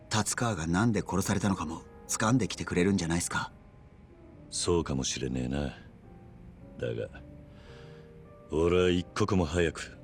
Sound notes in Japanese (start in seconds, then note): none